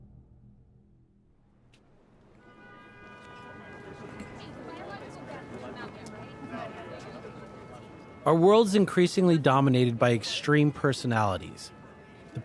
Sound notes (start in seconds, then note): 3.3 distant horn honking; 3.3 muted crowd chatter